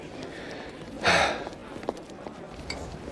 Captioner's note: sighs